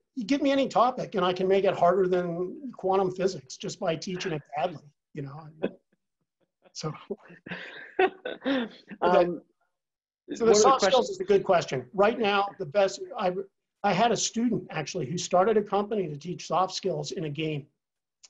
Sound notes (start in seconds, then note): 5.6 laugh